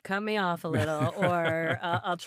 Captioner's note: laughing